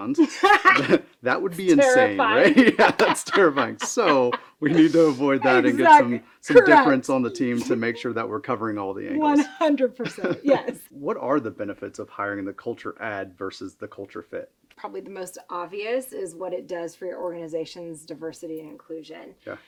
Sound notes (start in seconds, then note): 0.2 speaker laughing; 3.0 speakers laughing